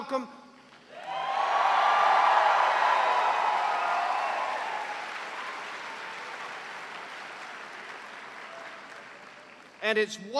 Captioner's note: cheers and applause